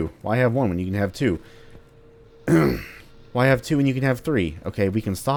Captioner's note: clears throat uneasily